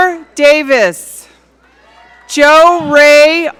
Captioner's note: audience cheering